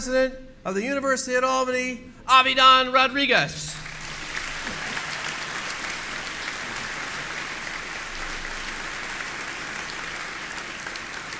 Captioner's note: applause